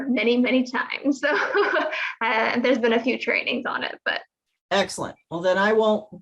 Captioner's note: chuckles